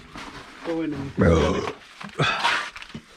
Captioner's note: burp